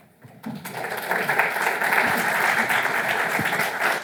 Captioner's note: audience clapping